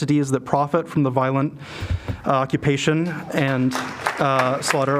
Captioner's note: applause